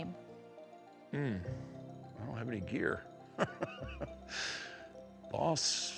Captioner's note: chuckles